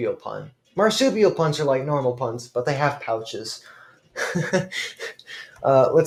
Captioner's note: laughs at own joke